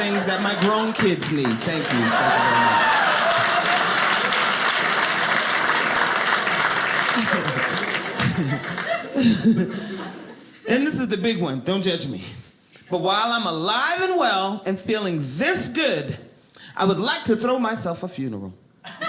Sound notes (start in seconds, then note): 2.7 audience clapping; 6.8 audience laughing